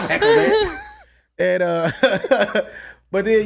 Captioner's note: laughs